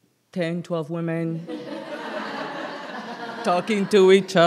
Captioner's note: laughter